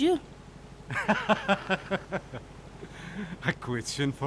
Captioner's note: laughing